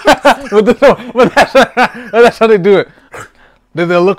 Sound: laughing

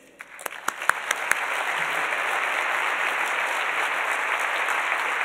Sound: audience applauds

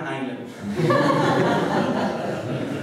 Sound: laughter

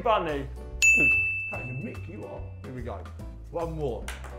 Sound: ding

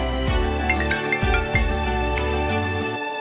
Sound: phone rings

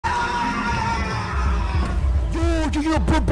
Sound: screaming

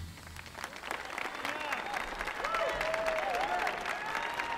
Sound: audience applauding

